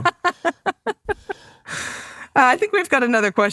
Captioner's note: laughs